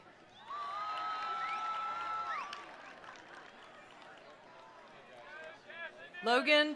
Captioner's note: attendees cheering; attendees applauding